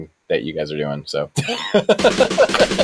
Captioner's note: laughter